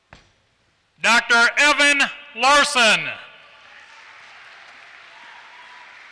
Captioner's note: applause